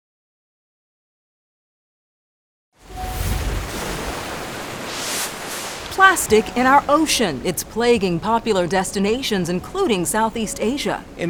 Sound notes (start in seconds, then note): 2.8 waves crashing; 2.8 air whooshing